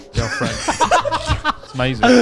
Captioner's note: all laughing loudly